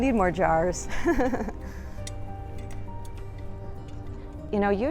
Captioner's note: laughs